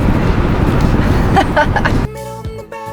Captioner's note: laughs